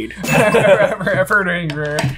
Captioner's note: both laughing